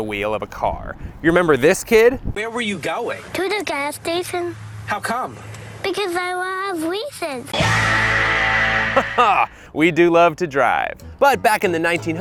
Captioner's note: laughs